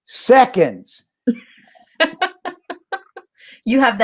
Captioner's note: laughter